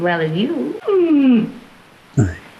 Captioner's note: squeals